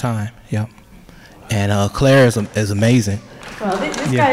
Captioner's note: applause